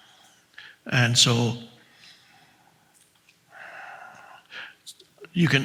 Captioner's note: breathes softly; breathes softly